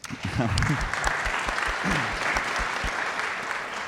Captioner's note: audience applauds